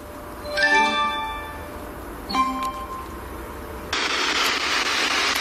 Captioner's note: device chiming; static crackling